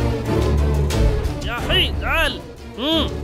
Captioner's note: Speaking in Arabic